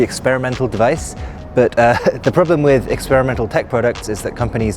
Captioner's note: laughs